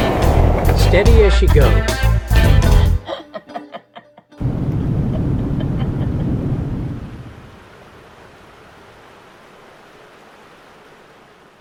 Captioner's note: ship Sounds